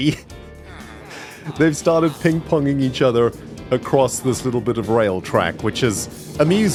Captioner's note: laughs